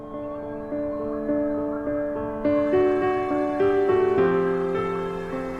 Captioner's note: inspirational music continues; wind whistling